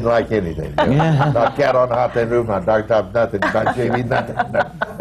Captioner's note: laughter